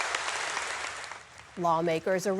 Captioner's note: applause